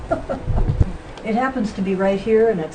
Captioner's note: voiceover; laughing